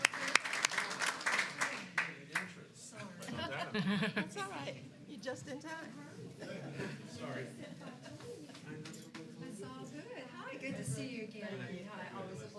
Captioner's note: applause